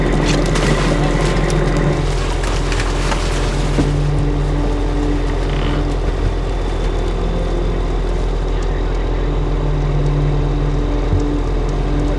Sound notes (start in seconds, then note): 0.8 water splashing; 9.5 solemn music